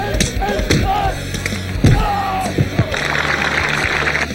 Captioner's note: shouts; crowd applauds